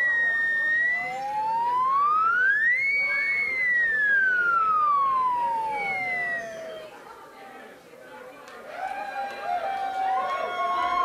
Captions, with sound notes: (Cheering) Here's another one that I worked on.